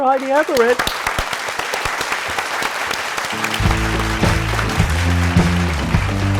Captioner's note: applause